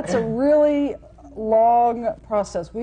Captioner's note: laughter